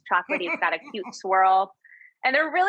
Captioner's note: laughs